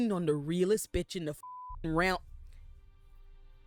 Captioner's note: beep